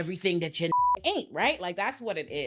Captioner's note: beep